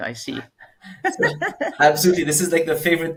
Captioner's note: laughing